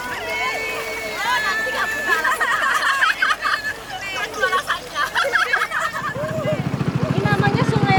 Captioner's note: laughs